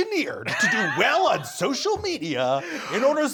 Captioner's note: Brennan laughing